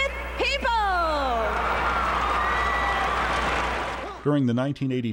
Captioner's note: cheers and applause